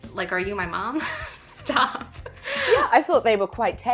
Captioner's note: laughs